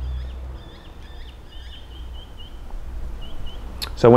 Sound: birds chirping

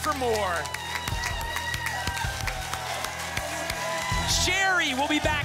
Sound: applause cont

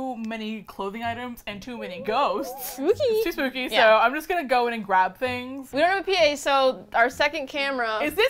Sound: high-pitched voice

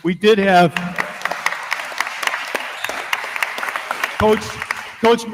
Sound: attendees continue applauding

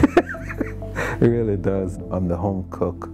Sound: laughter

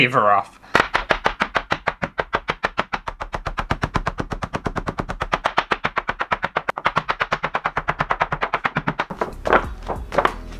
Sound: fast Hammer Sounds

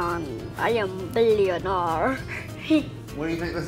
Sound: chuckles

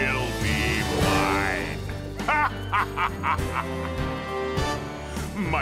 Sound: evil laugh

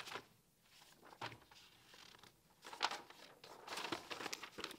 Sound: paper rustling

